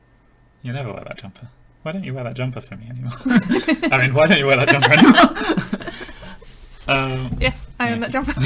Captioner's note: laughing